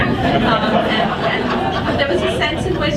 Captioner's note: audience laughs